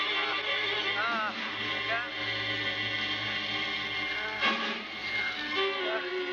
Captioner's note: groaning